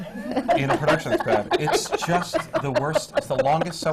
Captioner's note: laughter